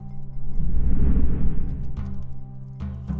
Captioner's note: whoosh